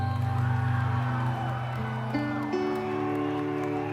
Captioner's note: crowd cheers in the adjacent gymnasium